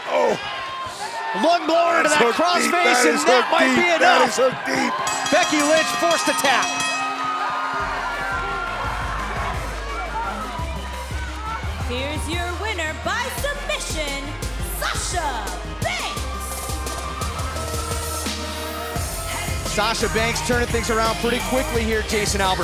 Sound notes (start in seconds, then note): 4.9 bell ringing